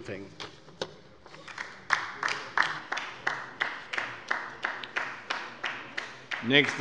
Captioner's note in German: Beifall bei der LINKEN